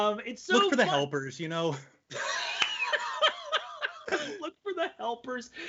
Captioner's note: laughing loudly; laughing loudly